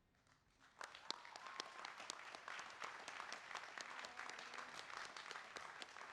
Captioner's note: applause